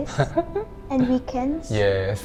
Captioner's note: laughing